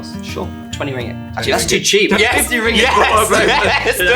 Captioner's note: laughs